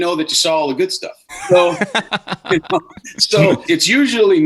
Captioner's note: laughing